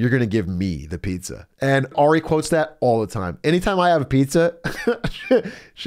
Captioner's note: laughs